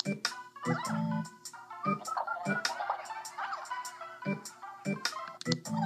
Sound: TV Chatting

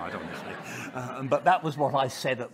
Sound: audience laughing

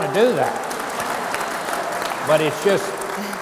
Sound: audience applauds

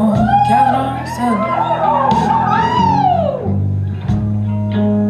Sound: audience hoots

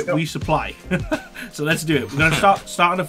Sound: laughing

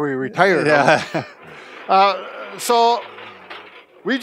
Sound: laughing

